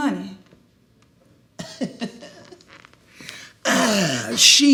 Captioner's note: laughs